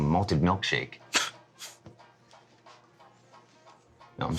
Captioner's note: Frank scoffs